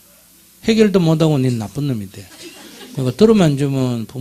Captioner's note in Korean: 청중 웃음